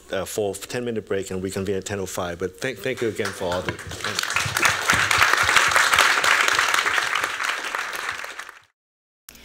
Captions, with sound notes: a full 10-minute break, and reconvene at 10:05. But thank you, again, for all the-- [applause]